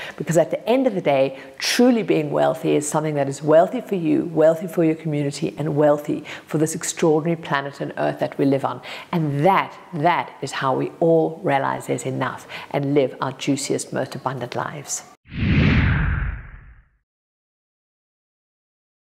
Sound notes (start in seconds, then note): 15.3 dramatic whooshing